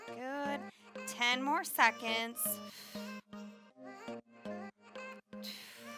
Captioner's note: exhales